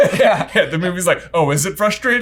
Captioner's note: laughing